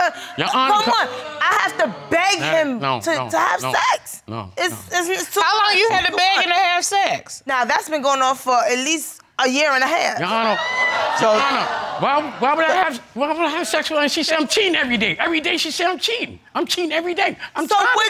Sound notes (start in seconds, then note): 11.0 audience laughing